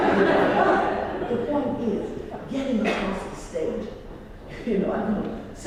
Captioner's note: laugh